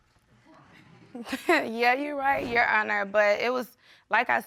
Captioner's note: laughs